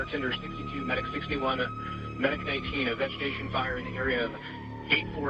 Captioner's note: radio